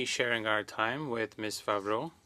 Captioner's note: speaking French